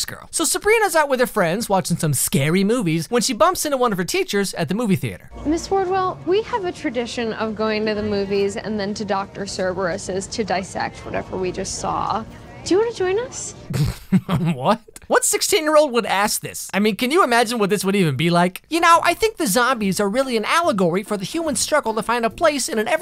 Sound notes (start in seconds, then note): 13.7 laughter